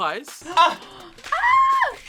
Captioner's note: gasps; screams